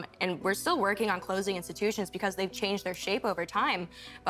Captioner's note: none